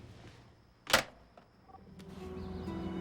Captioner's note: hangs up